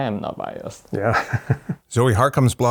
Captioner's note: laughs